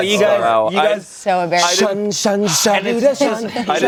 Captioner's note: vocalizes